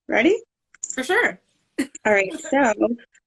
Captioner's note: laughing